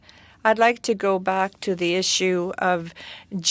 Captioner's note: speaking French